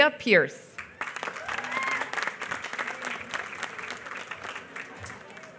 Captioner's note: applause